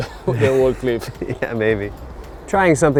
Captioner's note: laughs